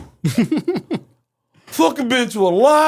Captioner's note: laughing